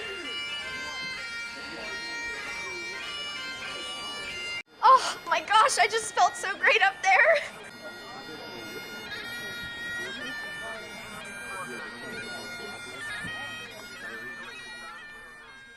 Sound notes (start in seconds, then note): 7.3 indistinct background chatter